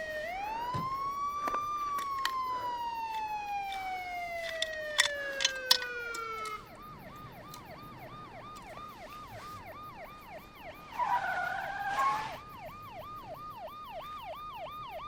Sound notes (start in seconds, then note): 10.2 wheels screeching